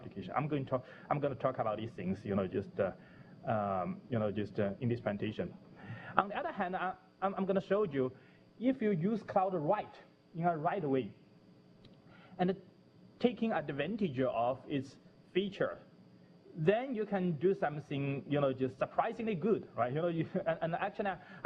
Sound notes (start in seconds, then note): 11.3 pause